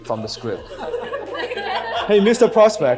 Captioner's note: audience laughs